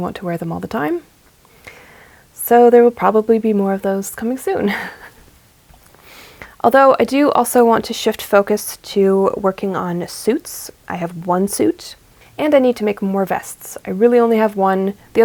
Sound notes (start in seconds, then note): 4.7 laughs